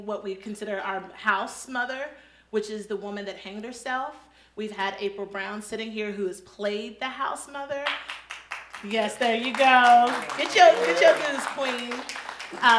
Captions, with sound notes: what we've consider our Haus mother, which is the woman that hanged herself, we've had April Brown sitting here who has played the Haus mother. (audience claps) Yes, there you go. Get your goose, queen.